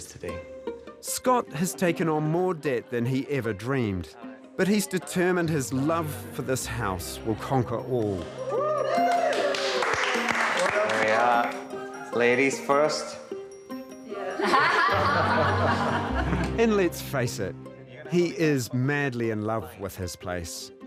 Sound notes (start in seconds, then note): 7.9 clapping and cheering; 14.3 everybody laughs